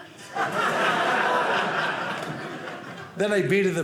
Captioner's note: audience laughing